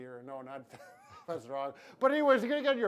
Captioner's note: laughs